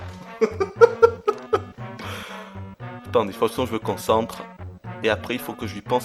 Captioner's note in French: rires